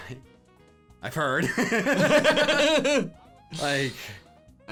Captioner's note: laughing